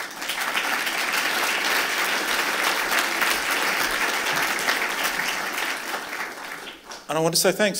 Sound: applause

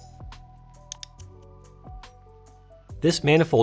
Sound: mouse clicks

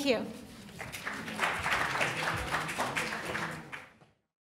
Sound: audience applauding

